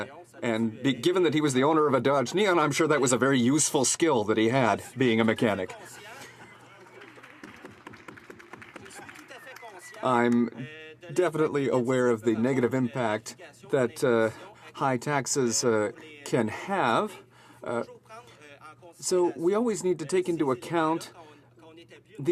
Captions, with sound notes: AND I'M HAPPY TO KNOW THAT HE'S A MECHANIC AND GIVEN THAT HE WAS THE OWNER OF A DODGE NEON, I'M SURE THAT WAS A VERY USEFUL SKILL THAT HE, BEING A MECHANIC. [Laughter] I'M DEFINITELY AWARE OF THE NEGATIVE IMPACT THAT HIGH TAXES